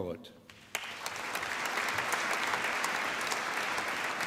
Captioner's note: applause